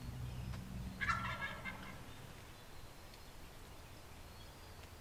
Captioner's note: turkey gobbling